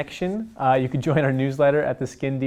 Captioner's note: chuckles